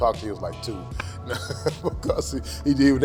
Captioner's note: laughs